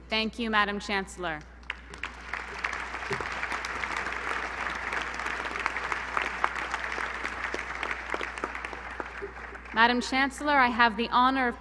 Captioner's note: applause